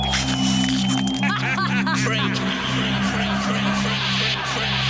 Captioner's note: evil laughter